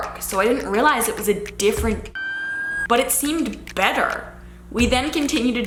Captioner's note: siren wailing